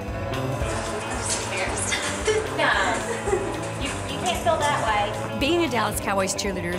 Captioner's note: laughs